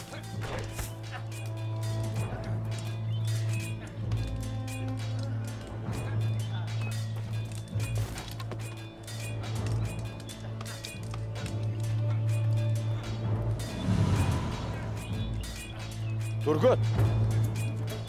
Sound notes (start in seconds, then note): 0.0 Kılıç sesleri; 13.2 Kılıç sesleri